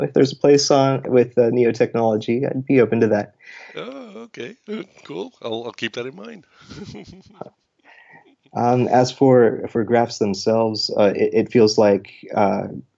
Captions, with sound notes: if there's a place with Neo Technology I'd be open to that. - Oh, okay, cool, I'll keep that in mind. (laughs) - As for graphs themselves, it feels like usage